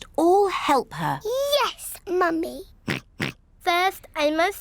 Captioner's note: oinks